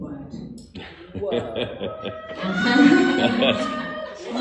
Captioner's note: laughing